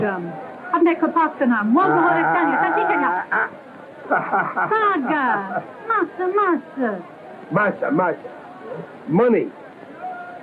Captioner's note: speaking portuguese; speaking portuguese